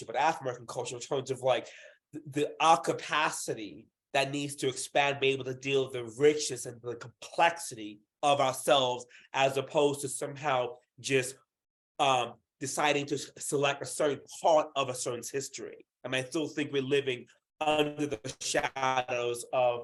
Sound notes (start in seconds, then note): none